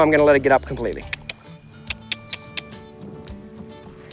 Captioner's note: clicking